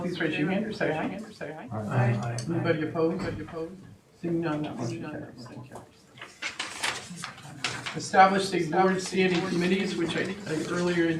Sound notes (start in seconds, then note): none